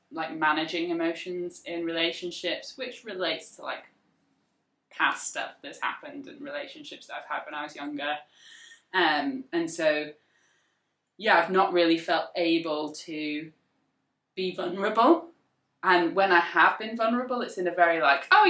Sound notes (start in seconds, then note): none